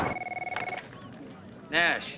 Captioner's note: phone ringing